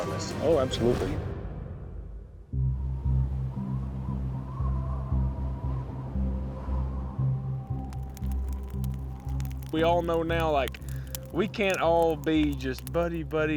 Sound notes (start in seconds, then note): 2.3 wind blowing; 7.3 flames crackling